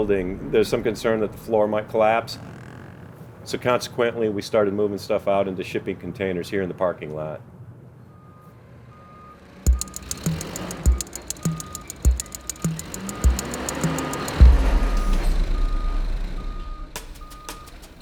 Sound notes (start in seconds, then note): 9.4 engine revving